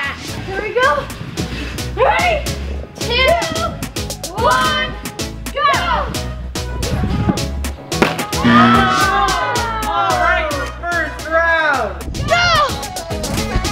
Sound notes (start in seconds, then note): 8.4 buzzer